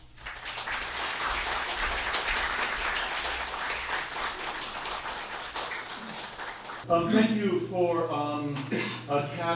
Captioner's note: applause